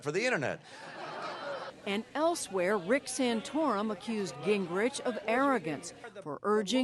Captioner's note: laughter